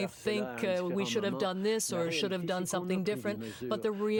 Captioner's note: speaking french